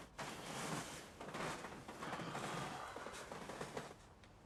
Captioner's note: bed creaks